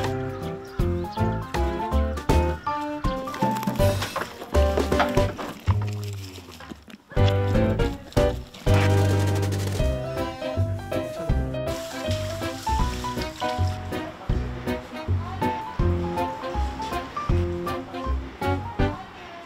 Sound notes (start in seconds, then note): 7.1 Crunch